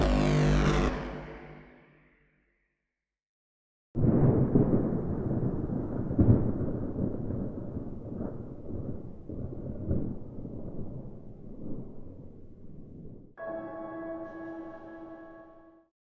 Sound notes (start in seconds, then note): 13.4 bell rings